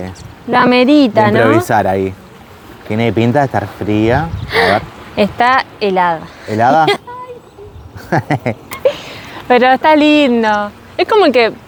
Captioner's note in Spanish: risas